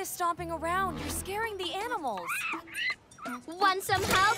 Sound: soft cry

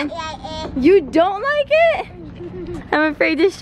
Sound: giggles

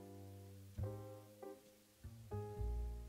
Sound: none

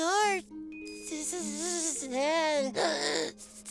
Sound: stuttering

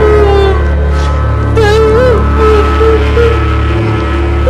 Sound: crying

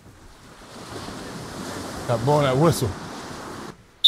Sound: blows whistle

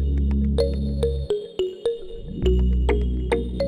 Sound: none

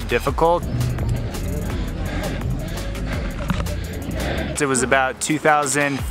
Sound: breathing heavily

